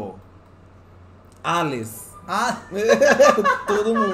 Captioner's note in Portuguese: risadas